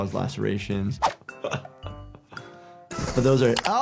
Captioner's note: laughs